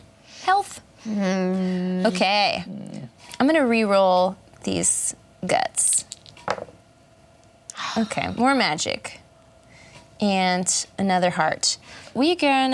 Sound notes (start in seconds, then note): none